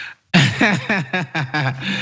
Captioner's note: laugh